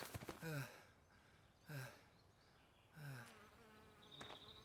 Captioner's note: hector groaning